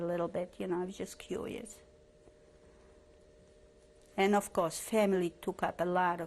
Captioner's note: pauses for 3 seconds